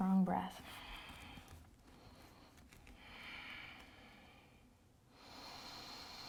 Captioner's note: breathes deeply